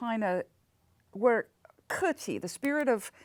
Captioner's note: speaks in foreign language